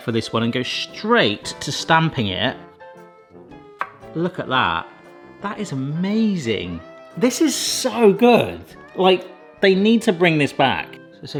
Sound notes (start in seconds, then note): 2.4 bright instrumental music; 3.8 stamp taps; 7.1 bright instrumental music